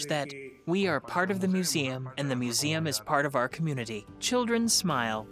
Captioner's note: speaks foreign language; soft music